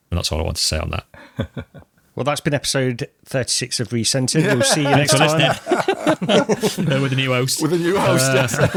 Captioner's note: laughter